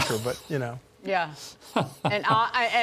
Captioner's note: laughter